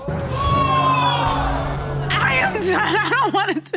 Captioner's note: audience exclaiming; voice breaking